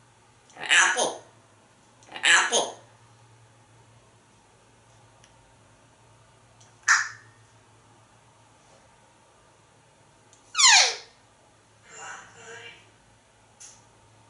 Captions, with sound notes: Apple Apple [Cluck sound] [Squeak sound]